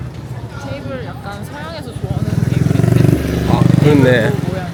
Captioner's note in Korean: 오토바이 지나가는 소리